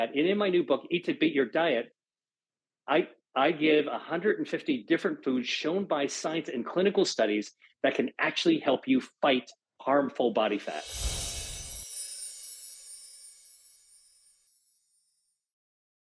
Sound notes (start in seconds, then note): 10.7 screen whooshes and tingles